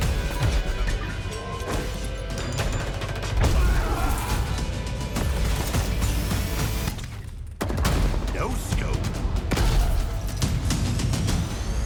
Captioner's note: gunfire